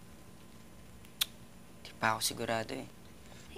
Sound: clicks tongue

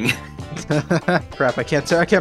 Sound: laughs

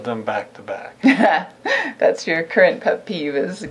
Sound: laughs

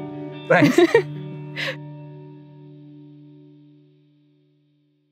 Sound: laughing

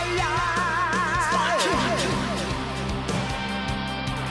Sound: fading echo

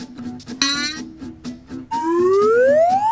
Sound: happy acoustic music; elastic boings; comical flute whistles

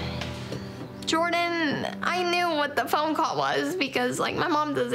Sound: voice breaking

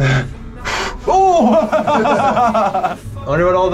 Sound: both laugh

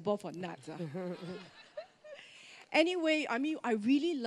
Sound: laughter

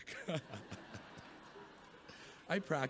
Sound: chuckles

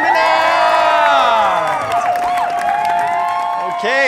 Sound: loud cheering

